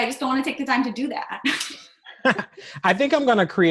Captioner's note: laughter